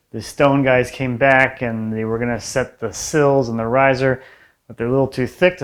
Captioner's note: none